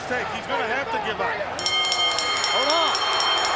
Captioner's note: bell dinging